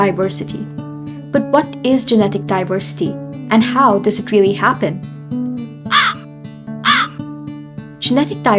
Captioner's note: crow cawing